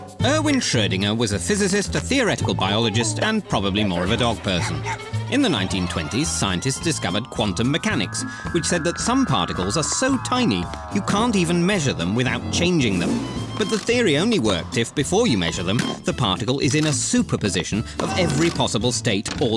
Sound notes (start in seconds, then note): 0.0 jazz music; 4.4 dog barks